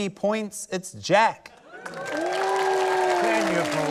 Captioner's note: cheering, applause